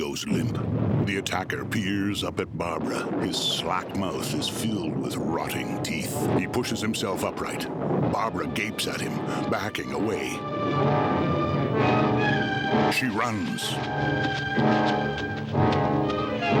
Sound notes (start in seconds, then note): 0.3 thunder striking; 3.5 intense music; 6.7 thunder rumbling